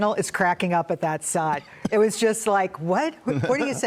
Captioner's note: laughter